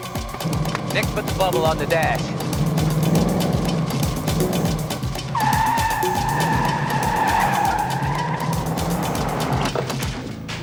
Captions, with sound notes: Nick, put the bubble on the dash. (tires screech)